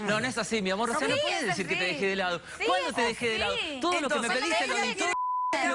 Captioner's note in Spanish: hablan al unisono